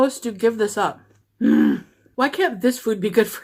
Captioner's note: grunting sound